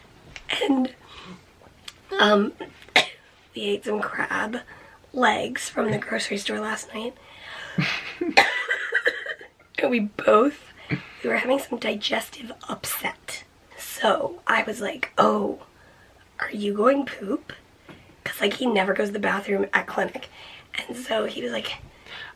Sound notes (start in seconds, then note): 7.7 coughing